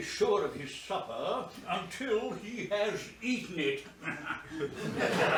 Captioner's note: chuckles